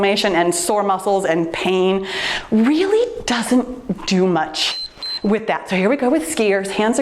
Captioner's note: timer beeps